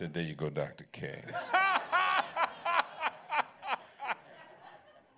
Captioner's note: laughter